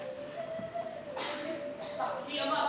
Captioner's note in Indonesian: Batuk